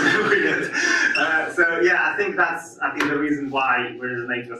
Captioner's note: audience laughs